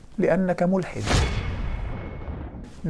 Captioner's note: sound effect